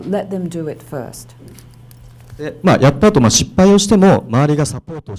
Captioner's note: speaking foreign language